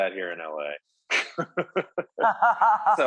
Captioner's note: laughs